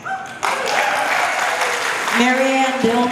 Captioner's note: applause